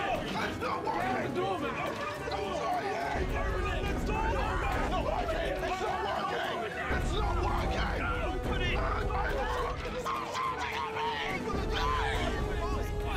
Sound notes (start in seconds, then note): 4.6 screaming; 8.8 screaming and shouting